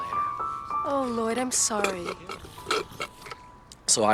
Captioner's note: slurps